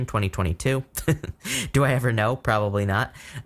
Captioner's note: chuckles